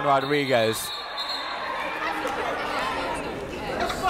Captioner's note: yelling